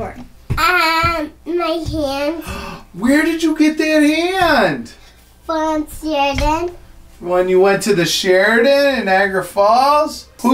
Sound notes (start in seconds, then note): 2.4 gasp